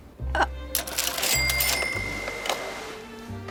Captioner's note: cashier drawer rings